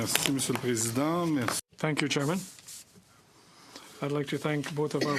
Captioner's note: speaking French